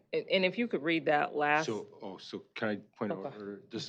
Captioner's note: none